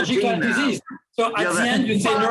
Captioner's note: crowd murmuring